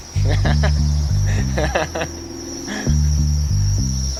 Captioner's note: chuckling